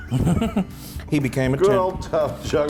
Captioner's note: laugh